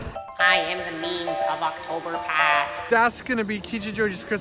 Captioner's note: Meemers voice